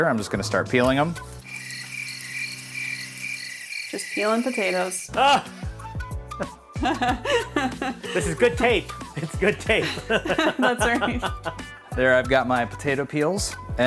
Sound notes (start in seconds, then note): 1.4 crickets chirping; 6.4 laughing; 10.1 laughing